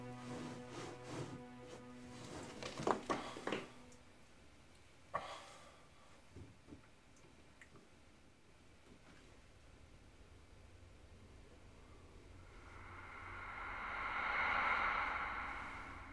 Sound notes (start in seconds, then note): 3.4 sighing; 12.4 dramatic music